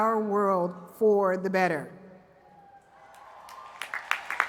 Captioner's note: cheers and applause